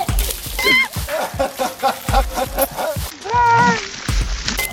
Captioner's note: splashing